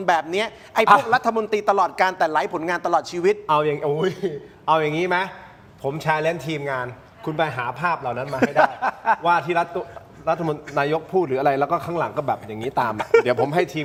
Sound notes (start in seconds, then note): 8.2 laughter